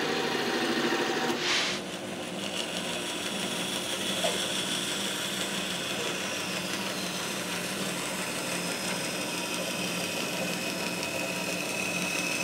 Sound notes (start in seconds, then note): 0.0 band saw revving